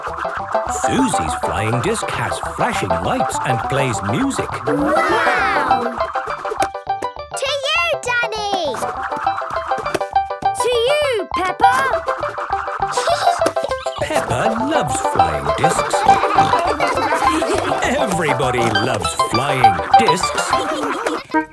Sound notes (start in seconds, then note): 12.8 giggling; 16.0 snorting and laughter; 20.5 laughter